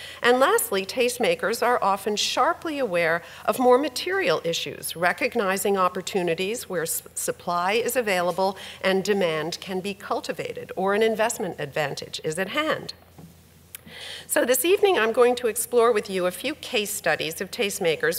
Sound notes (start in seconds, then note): none